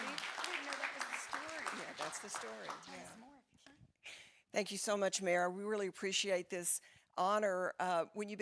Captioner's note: applause